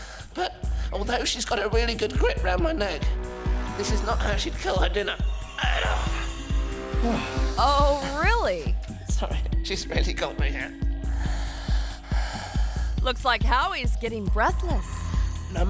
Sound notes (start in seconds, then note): 5.5 Howie groans; 6.9 Howie exhales sharply; 10.6 breathes heavily